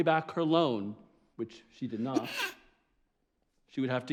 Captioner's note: sneezes